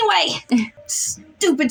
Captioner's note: chuckle